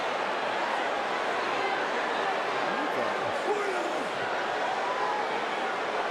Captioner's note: crowd murmuring continues